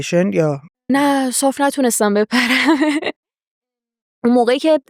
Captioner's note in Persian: خنده